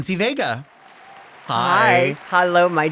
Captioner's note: audience applauding